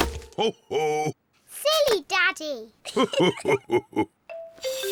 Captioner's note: both laugh